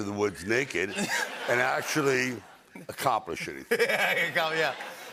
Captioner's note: laughter